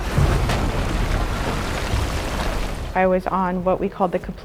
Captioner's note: water rushing